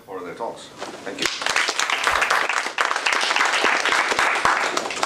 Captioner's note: applause